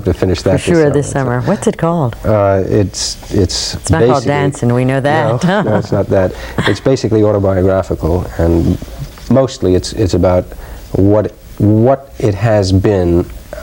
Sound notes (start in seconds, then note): 5.1 laughs